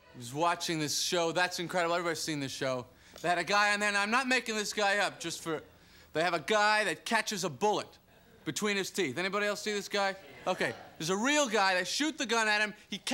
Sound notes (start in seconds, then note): 10.1 crowd murmurs their agreement